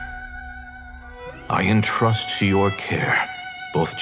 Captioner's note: none